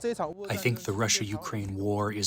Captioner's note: through translator